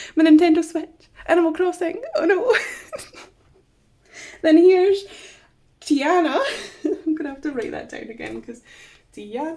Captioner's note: laughs